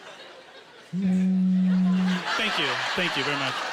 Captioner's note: laughing; imitating phone vibrating